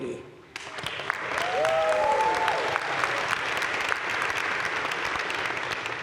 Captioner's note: audience cheering and applauding